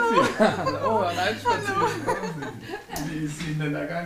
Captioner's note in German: kichert